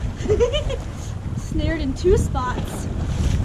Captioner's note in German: Lacht